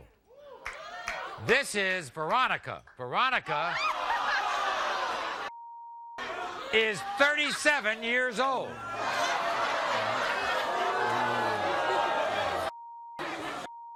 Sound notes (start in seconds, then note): 0.4 audience members cheering; 8.8 audience jeering and swearing